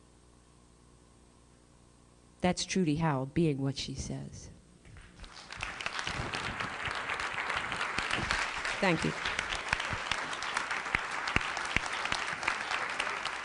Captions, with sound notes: That's truly how being what she says. [APPLAUSE] Thank you. [APPLAUSE]